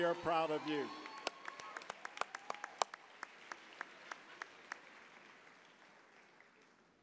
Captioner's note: applause